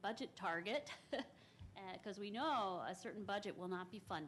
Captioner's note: chuckles